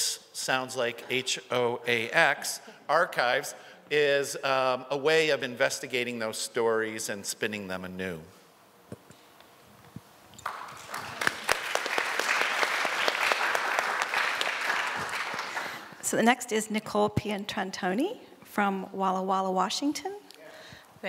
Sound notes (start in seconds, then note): 10.4 applause